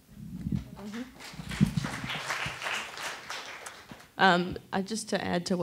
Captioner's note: attendees applauding